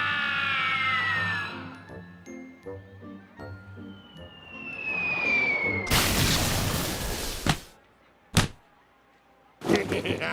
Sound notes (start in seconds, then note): 3.9 air whistling; 7.5 splat